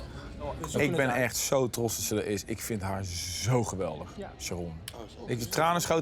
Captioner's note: speaking in foreign language